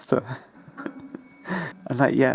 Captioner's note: chortles